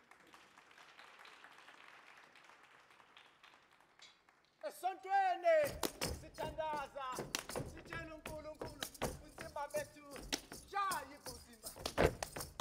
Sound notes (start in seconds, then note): 0.0 audience applauding; 4.8 speaking language other than English; 12.3 feet stomping and hands clapping